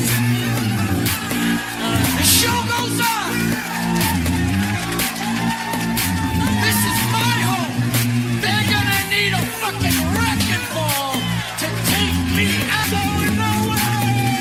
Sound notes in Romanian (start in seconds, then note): 3.5 Aplauze